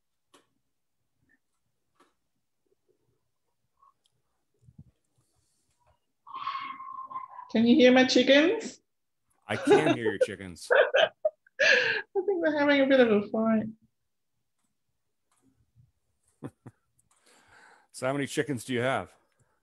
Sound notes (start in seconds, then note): 9.5 laughs; 16.2 chuckles